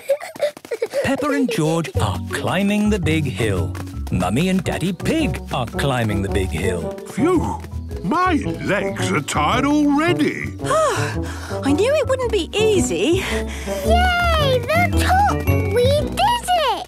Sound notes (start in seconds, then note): 10.5 panting